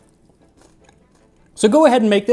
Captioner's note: Crunch